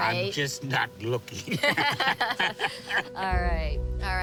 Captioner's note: both laugh